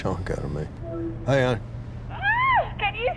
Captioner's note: yelping